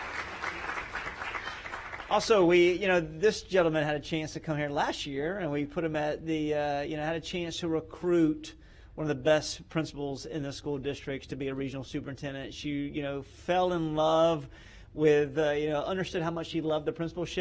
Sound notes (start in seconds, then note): 2.9 applause